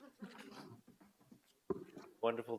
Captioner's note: audience laugh